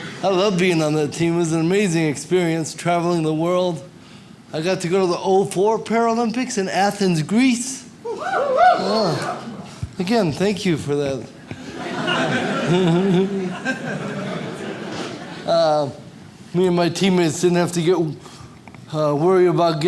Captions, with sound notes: I loved being on the team, it was an amazing experience, traveling the world. I got to go to the '04 Paralympics in Athens, Greece. (audience cheer) Again, thank you for that. Me and my teammates didn't have to worry about